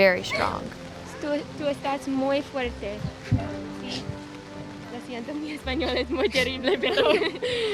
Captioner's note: speaking spanish; chuckles